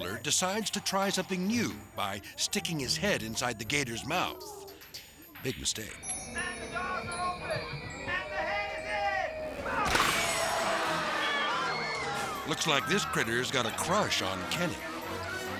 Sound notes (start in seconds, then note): 9.4 audience gasping and screaming; 9.8 gator jaws crunches